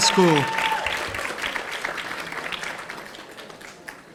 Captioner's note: audience applauding